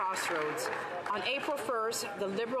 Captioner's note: some Applause